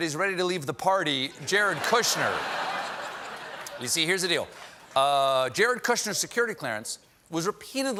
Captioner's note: laughter